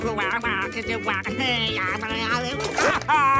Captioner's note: imitates baby; screams